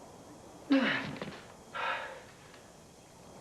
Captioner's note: gasps